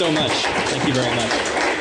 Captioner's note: applause